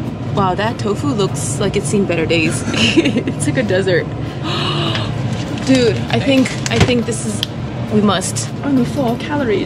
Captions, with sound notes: Wow, that tofu looks like it's seen better days It's like a desert *le gasp* Dude, I think, I think this is... a must only four calories